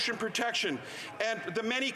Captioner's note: none